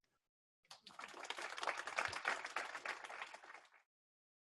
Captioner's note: audience applause